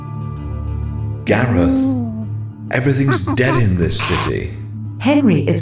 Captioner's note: ape noises